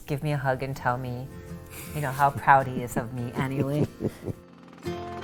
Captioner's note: chuckles